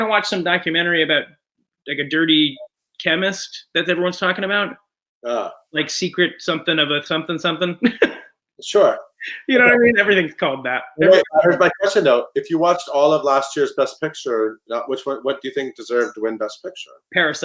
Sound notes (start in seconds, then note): 9.2 chuckles